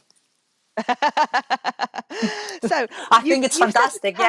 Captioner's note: laughs